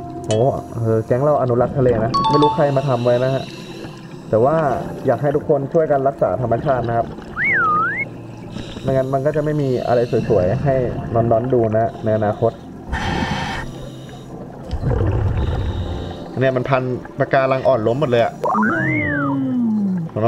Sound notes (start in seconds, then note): 12.9 inhale; 15.4 exhale